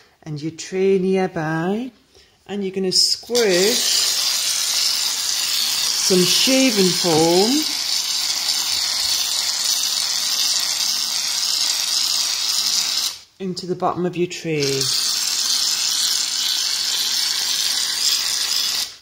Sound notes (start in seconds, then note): 4.1 foam spraying; 8.0 foam spraying; 14.6 foam spraying